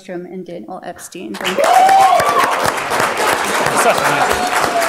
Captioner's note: applause, cheering